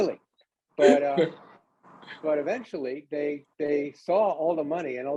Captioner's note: laughs